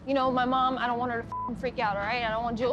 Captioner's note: beep